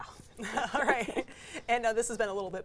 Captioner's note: laughs